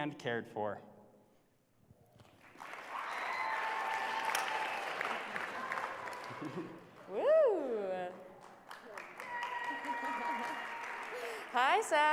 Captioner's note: applause